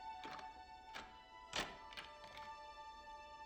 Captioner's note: lock turns